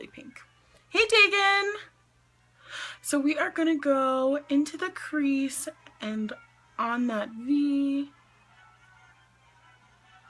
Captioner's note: inhales